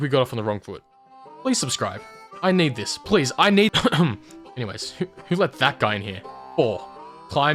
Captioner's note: coughs